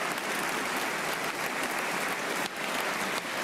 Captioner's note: applause